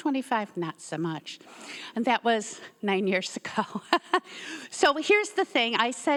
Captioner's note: laughs